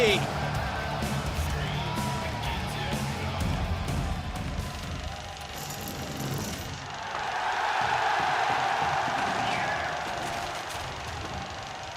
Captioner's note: crowd cheering